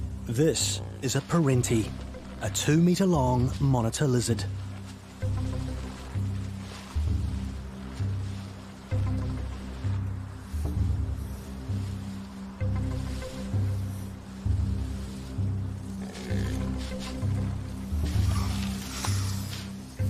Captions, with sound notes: This is a perentie, a two meter long monitor lizard. (snake hissing) (perentie grumbling)